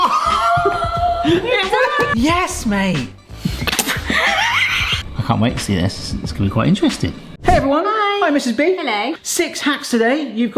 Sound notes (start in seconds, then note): 3.8 both laugh